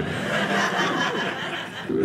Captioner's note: audience laughing